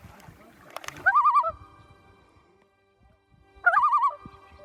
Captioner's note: birds chirping